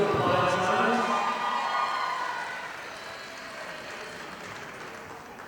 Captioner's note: audience applauding